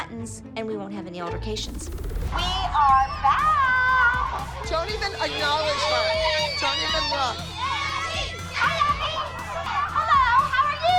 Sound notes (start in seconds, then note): 2.0 singsong